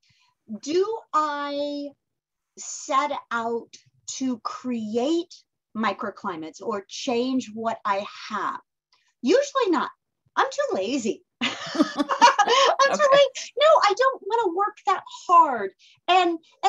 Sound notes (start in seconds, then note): 11.5 laughing